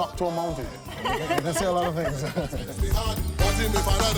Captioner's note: laughs